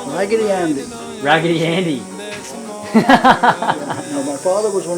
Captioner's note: laughs